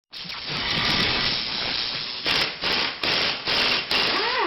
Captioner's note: drilling sounds